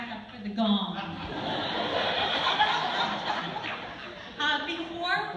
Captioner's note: laughter